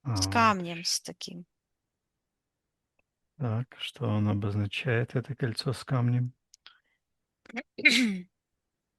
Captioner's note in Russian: откашливается